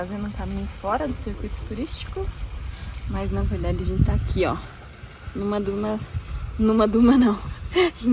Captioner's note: laughs